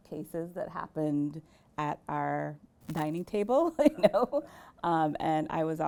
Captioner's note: chuckles